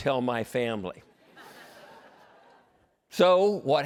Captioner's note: laughter